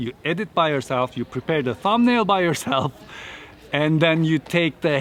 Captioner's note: laughing